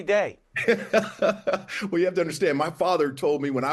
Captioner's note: laughs